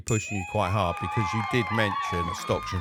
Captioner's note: bell dinging; crowd cheering